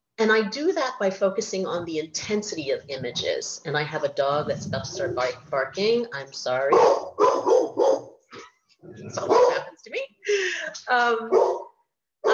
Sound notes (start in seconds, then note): 6.7 dog barking